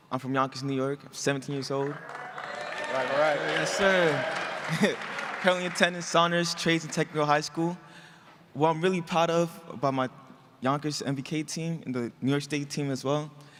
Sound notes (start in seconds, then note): 1.8 audience cheering